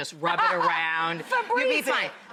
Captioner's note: laughs